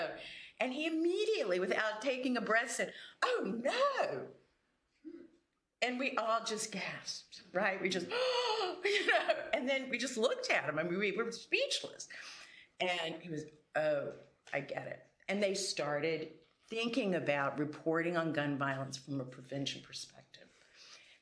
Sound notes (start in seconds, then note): 8.2 gasps